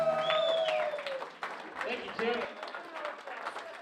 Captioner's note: applause